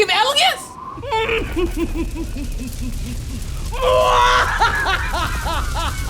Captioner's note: evil Laugh